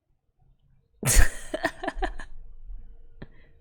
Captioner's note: laughs